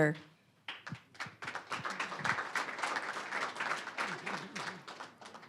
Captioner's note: applause